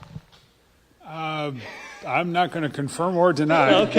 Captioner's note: laughter